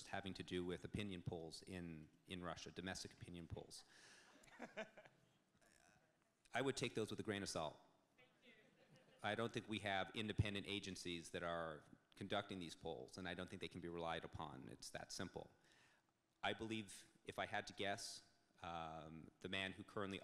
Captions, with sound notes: having to do with opinion polls in Russia, domestic opinion, polls. (audience laughing) I would take those with a grain of salt. I don't think we have independent agencies that are conducting these polls and I don't think they can be relied upon it's that simple. I believe if I had to guess the man who currently